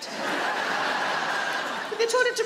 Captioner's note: audience laughing